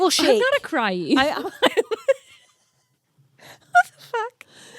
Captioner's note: both laughing